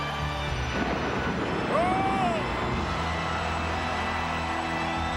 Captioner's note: dramatic music; thunder rumbles; crowd cheering; dramatic music